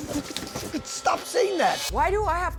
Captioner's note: spluttering